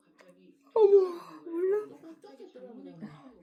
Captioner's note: yawn again